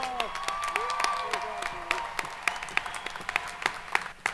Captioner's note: audience cheering